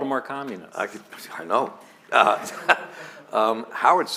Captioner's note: laughter